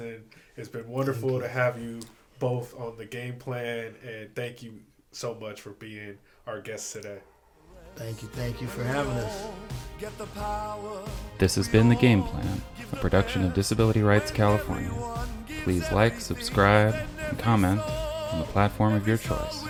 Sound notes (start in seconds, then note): 9.4 triumphant music playing; 11.3 voiceover